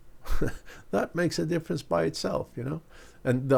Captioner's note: laughs